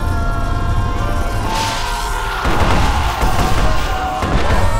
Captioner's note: conformistines clamor; lightning zaps; members cheering